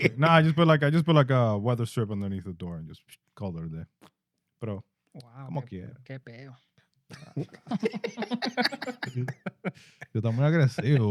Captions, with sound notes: Nah, I just put like a weather strip underneath the door and just called it a day. Bro. (Speaking In Foreign Language) (Laughing) (Speaking In Foreign Language)